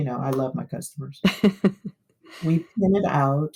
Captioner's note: laughter